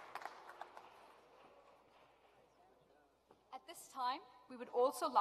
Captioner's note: applause